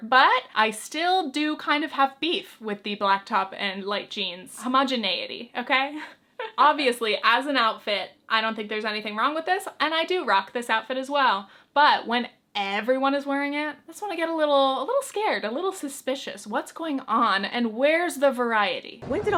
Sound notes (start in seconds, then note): 6.4 chuckles